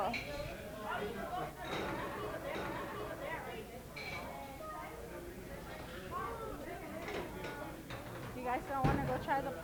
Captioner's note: kitchen noises